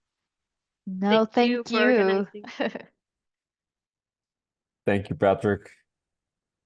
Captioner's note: laughs